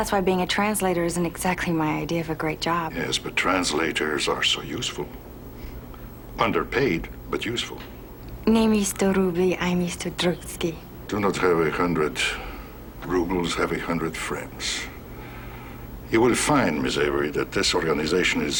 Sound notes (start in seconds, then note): 8.4 speaks in foreign language